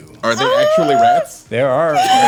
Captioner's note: wails